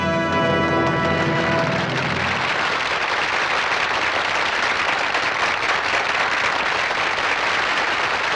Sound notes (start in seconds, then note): 1.9 applauding